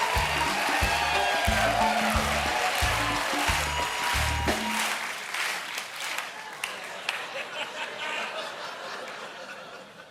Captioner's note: applause